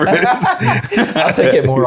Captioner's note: laughing